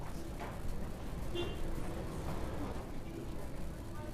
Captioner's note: car honks